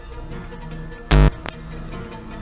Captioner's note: static noise